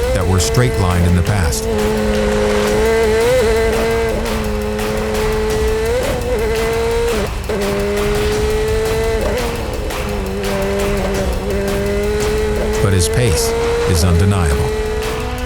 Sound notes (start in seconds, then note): 2.6 car engine revving